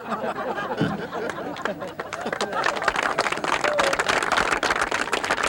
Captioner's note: audience laughs; audience applauds